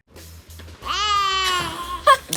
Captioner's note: cries; laughs